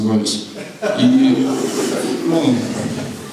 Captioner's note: laughter